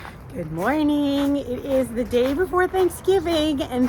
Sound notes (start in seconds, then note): 0.0 footsteps crunching